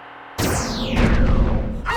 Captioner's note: explosion